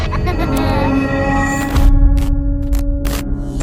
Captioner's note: child laughing